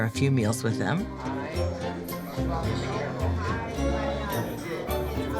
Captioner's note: restaurant patrons talking